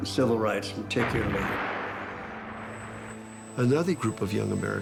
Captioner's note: explosion